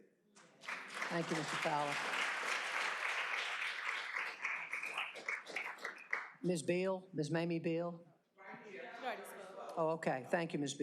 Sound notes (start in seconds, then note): 3.4 applause